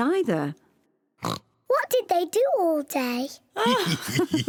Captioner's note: oinks; both laugh